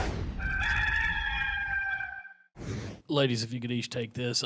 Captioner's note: rooster crows